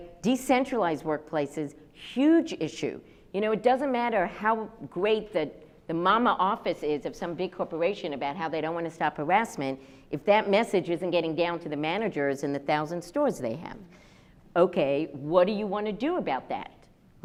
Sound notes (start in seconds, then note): none